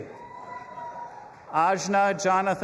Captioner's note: audience applauding and cheering